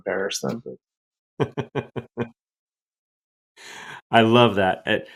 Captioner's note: laughs